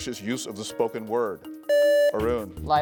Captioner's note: buzzer beeps